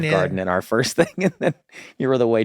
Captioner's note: Glenn laughs